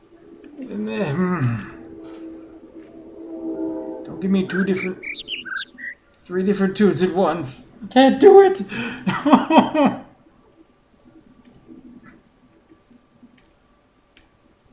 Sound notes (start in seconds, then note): 4.3 overlapping birds chirping, ˥ ˧ ˥ ˩; 9.6 whimpers